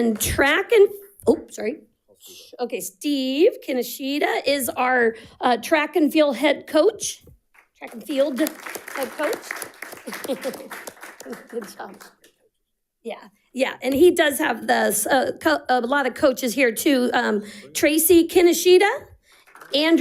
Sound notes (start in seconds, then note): 0.0 audience applauding; 10.0 audience applauding; 10.0 chuckles; 19.3 audience applauding